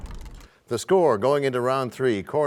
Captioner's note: crashing sound